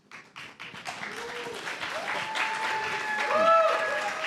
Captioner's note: applause